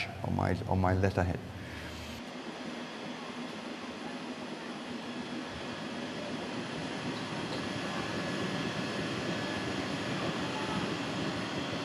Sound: construction Sounds

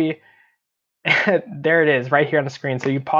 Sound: chuckles

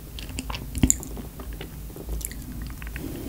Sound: mouth watering

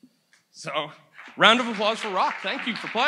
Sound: audience applauds

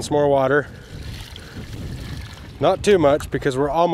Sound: water sloshing

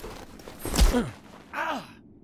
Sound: whack!

